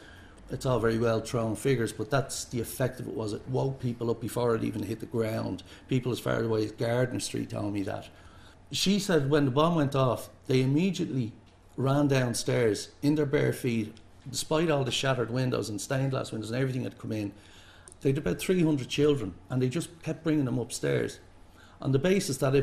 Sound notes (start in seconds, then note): none